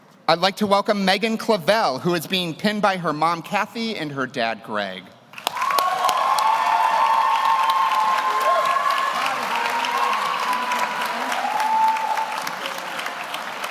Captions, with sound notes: I'd like to welcome Megan Clavell, who is being pinned by her mom, Kathy, and her dad, Greg. (audience cheers) (audience applauds)